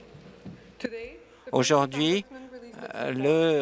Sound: speaking French

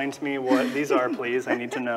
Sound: laughs

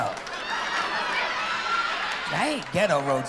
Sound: laughter and applause

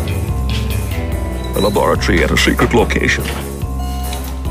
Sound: Imitating Sean Connery

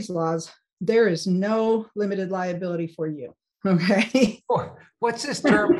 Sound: laughs

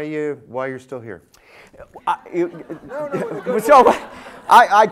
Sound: laughter

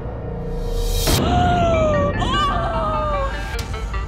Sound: gasps

